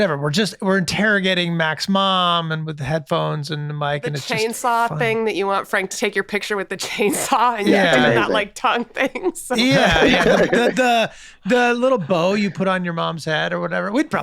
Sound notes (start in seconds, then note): 9.6 Megan, Rob, Glenn laughing